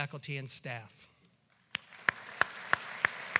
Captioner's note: applause